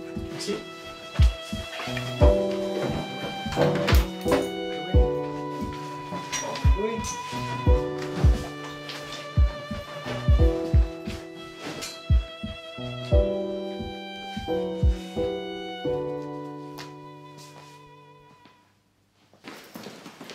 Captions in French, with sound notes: Merci. Chloé. Chloé ! [battements de coeur] [bruits de pas]